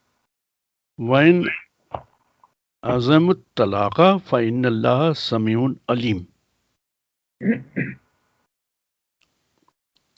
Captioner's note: recites in Arabic